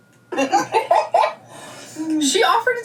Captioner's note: laughing